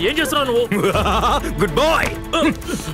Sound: laughs

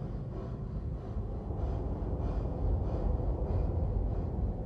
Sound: dog panting

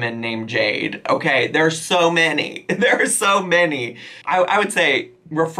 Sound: laughs

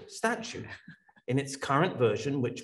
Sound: laughs

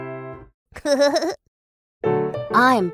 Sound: playful music; giggles

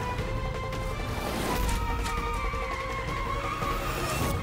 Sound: tyre screeching

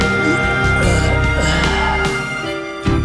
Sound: groaning

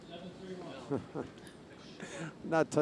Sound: giggling

